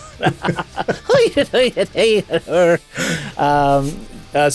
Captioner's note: makes questionably inaccurate leprechaun noises